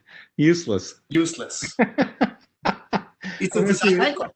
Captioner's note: laugh